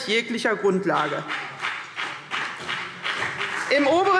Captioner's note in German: Beifall CDU und BÜNDNIS 90/DIE GRÜNEN